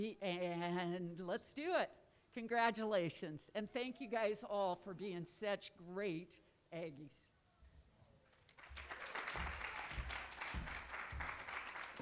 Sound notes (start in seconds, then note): 8.3 applause